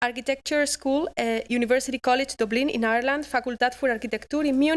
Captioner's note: non-english speech